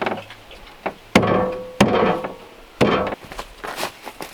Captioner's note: smacking